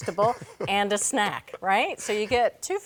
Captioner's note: laughing